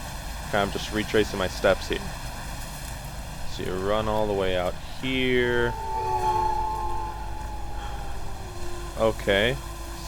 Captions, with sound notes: I just retracing my steps here. So you run all the way out here... [Invisible train of ghost wolves passing by] Okay?